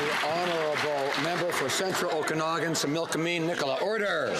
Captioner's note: some Applause